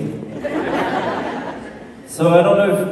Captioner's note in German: Menge jubelt